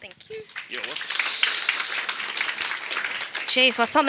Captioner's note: audience applauding